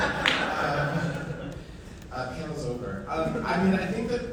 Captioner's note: audience laughing